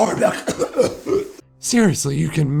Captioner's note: chokes and coughs